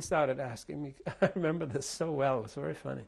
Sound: laughs

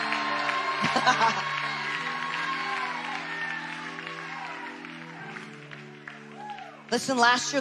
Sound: people cheering; laughs

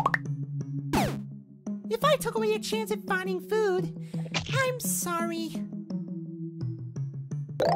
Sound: spits out cherry

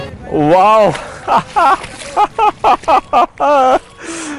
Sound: laughter

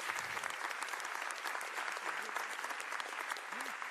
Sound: applause

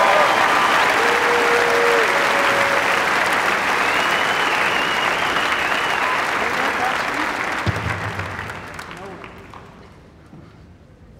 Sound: cheers and applause

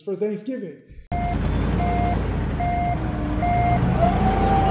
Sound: truck beeping

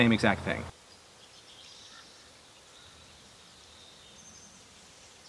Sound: birds chirping

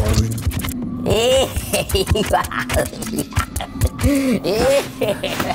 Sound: McKraken laughs

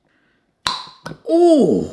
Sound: lid pops

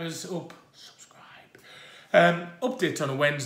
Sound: whispers and points

